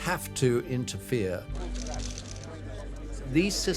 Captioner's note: cameras clicking